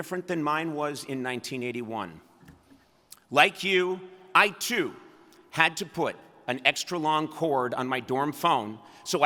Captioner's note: none